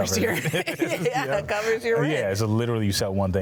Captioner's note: laughs